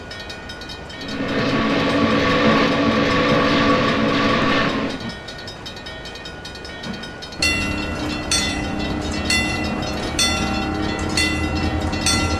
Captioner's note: MEC J Class whistle, wig wag ringing